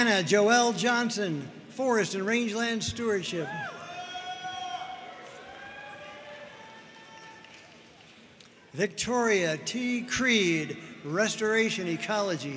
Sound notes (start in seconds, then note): 3.9 audience cheering and applauding